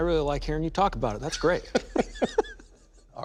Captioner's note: laughter